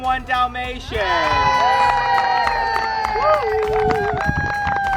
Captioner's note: crowd cheers